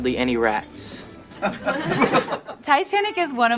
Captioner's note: crowd laughing